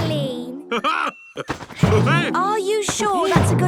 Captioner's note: laughs